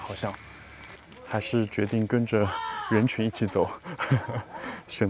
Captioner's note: laughs